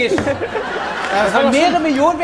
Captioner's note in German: Lachen